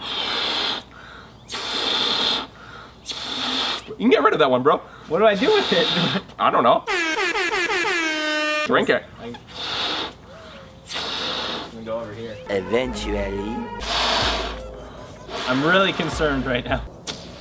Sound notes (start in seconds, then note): 1.4 balloon hissing; 5.4 laughs; 6.8 air horn honks; 10.6 ballon hissing; 13.8 balloon hissing